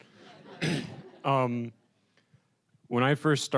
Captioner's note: audience chuckling